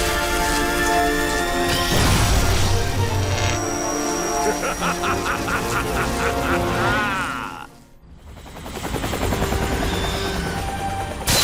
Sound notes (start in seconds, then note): 1.7 electricity crackling; 4.3 Taurus Bulba laughs